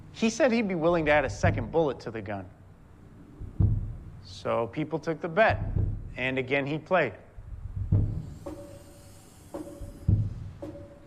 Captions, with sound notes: he said he'd be willing to add a second bullet to the gun. So people took the bet. And again he played. [whirring]